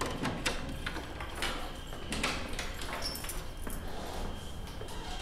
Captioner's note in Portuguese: Porta abrindo